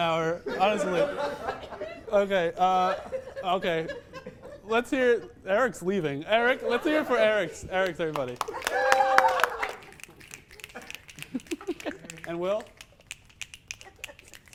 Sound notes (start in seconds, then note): 7.8 clapping + cheering; 9.9 snapping